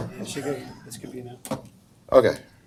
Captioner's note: equipment thuds